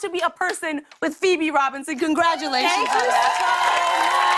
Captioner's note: cheers and applause